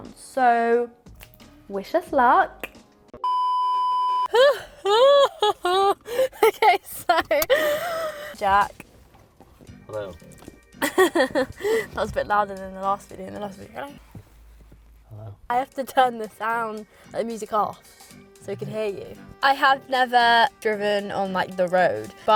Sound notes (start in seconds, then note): 3.2 beeping; 4.5 shouting; 10.8 laughing